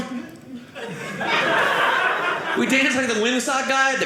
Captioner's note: audience laughing